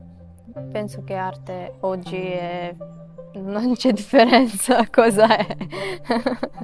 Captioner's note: laughs